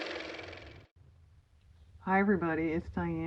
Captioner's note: car motor